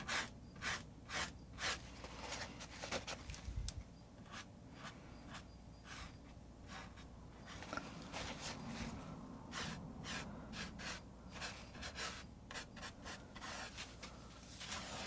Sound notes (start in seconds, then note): 2.1 scratching sounds